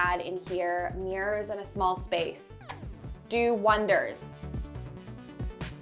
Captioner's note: kisses